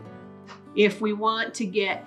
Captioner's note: air whooshes